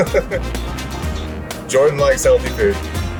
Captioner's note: laughs